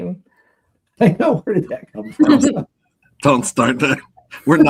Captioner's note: laughs